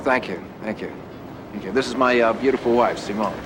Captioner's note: none